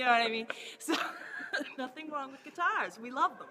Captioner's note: laughs